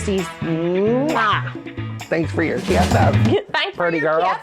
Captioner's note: kissing sound; laughter